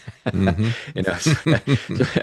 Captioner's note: both Laughing